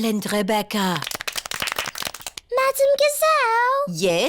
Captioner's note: all clap